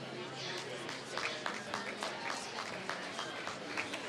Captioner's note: applause